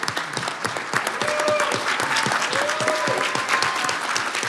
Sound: cheering

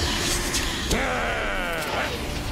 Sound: growls

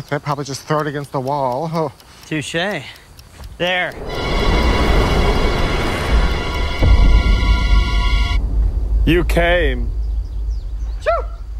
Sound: sneezes

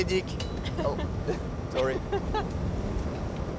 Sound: laughs

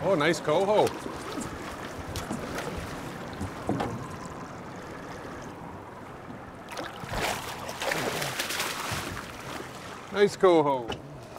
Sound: fish splashing

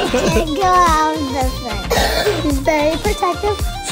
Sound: murmurs

